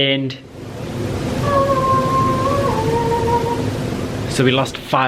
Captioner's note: angelic humming